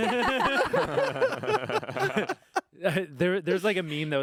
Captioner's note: group laughing